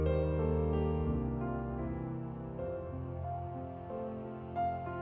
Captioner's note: none